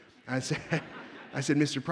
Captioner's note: audience laughs